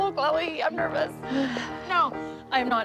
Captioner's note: Chloe sighs